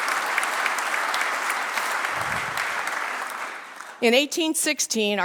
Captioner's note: applause